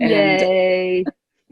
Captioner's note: laughter